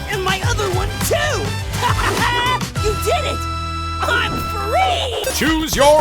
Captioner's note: laughing